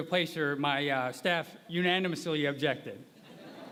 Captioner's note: laughter